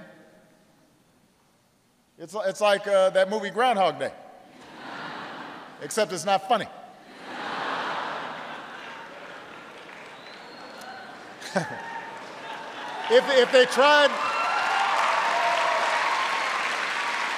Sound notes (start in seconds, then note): 7.0 laughter; 11.8 applause